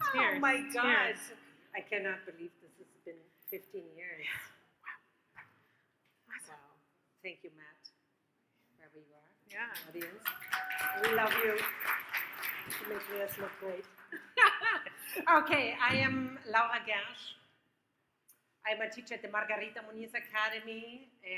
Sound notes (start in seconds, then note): 0.0 laughs; 10.4 audience cheers; 14.1 laughs